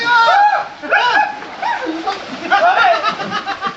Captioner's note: cheering and laughing